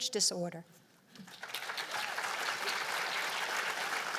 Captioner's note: applause